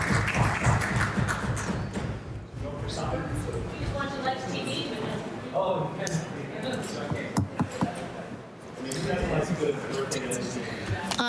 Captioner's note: applause